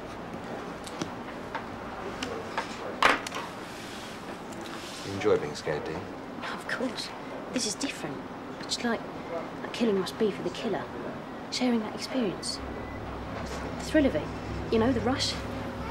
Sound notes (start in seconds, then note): none